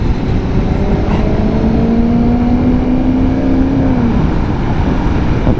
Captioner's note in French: bruit de grosse voiture italienne